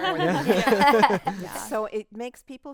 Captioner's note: group laughing